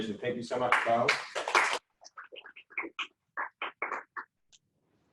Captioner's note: applauding